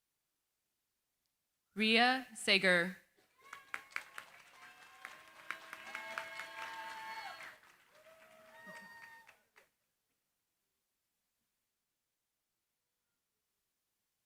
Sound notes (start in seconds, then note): 3.3 cheering, applause